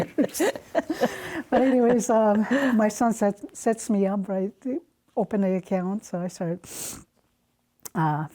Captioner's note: laughter; sniffs